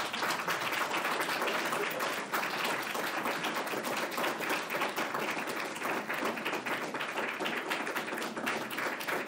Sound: applause

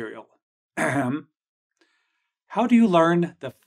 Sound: ahem

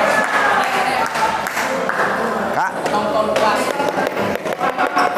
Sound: applause

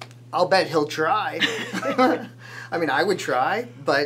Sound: laughs

